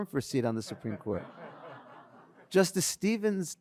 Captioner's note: audience laughs